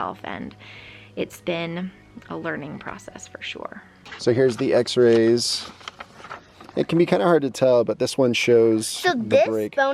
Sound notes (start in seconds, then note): 5.8 paper rustling